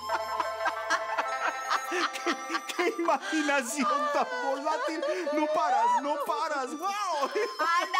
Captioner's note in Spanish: Risas